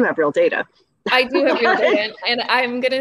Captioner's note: laughing